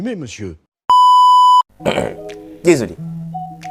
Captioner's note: clears throat